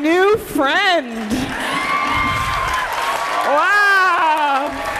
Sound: applause

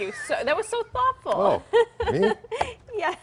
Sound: laughter

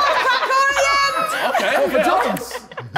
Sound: all laughing

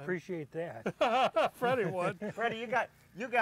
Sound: laughing

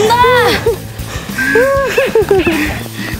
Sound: groaning

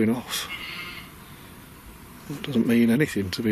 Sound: sheep bleating

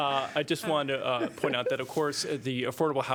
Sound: laughter

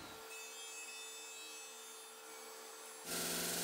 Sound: saw screeching

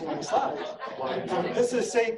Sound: laughing

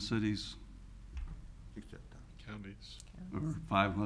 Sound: faintly speaking

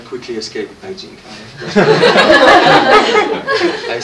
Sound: laughter

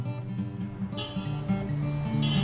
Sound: horn honks

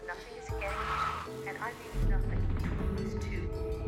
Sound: tires screech

